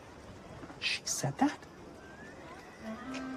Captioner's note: whispers